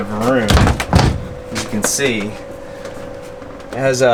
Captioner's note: door latching sounds